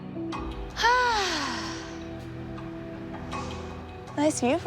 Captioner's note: sighs